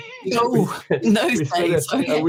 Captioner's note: both mumbling